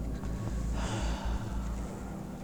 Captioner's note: takes a deep breath